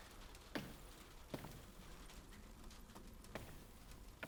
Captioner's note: rain continues to patter on the roof